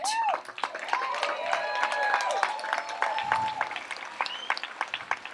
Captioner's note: audience applauds and cheers